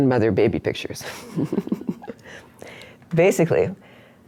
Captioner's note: laughs